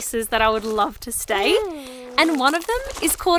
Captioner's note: coos